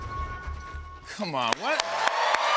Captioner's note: cheers and applause